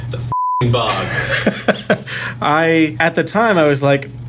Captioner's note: laughs